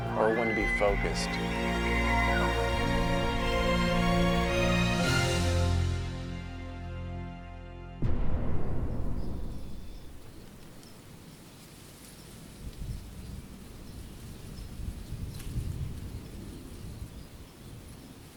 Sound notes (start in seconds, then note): 0.0 elk bugles; 8.1 wind whooshing